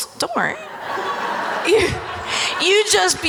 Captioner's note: audience laughing